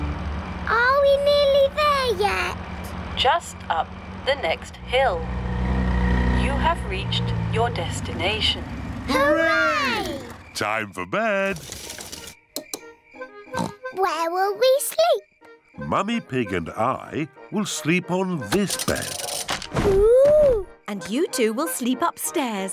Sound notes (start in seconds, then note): 13.5 oinks